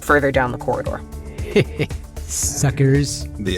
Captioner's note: chuckles